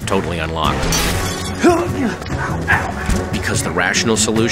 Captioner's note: grunts